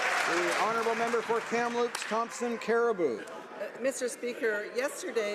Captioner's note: some Applause